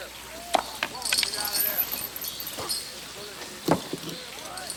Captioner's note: chain clinks